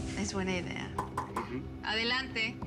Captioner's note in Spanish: Toques en la puerta